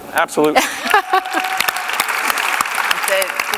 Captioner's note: applause